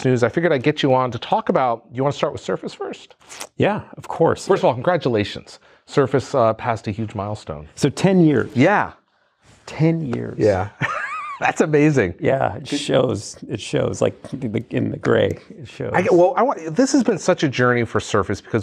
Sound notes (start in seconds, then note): 10.4 laughs